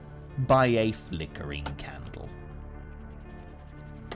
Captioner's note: pick banging